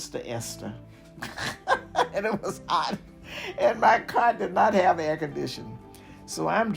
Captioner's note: laugh